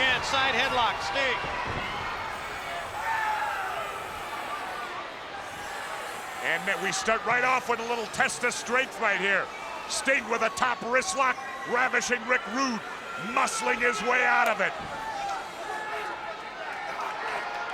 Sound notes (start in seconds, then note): 1.7 crowd yelling; 14.9 crowd yelling